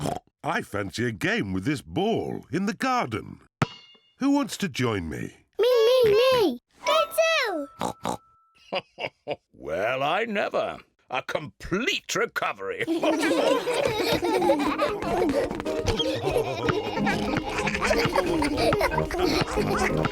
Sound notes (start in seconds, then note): 0.0 oinks; 7.8 oinks; 8.6 chuckles; 12.8 all laughing